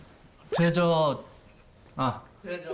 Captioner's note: stutters